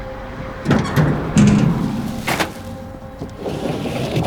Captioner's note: truck bed clanks; cooler sliding